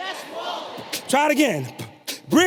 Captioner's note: beatboxes